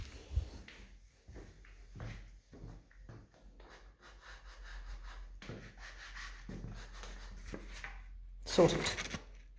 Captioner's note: light scuffing sounds as I rub soles on the floor